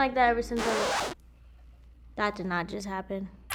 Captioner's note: record scratching